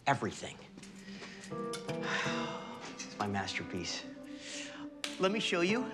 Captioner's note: sighs